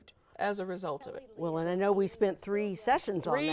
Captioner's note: guests talking